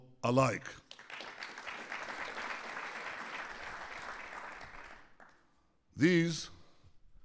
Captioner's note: applause